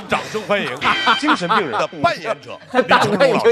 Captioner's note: haha